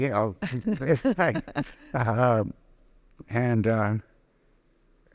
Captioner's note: both laughing